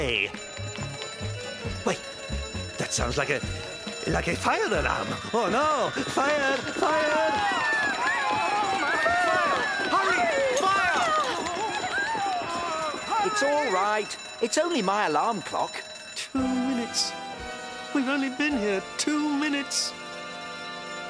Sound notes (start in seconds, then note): 2.0 alarm; 7.1 screams